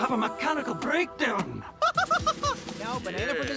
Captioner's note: laughing